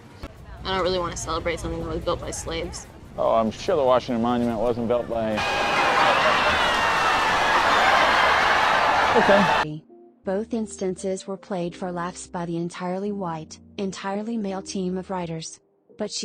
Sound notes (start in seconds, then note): 5.4 obnoxious laughter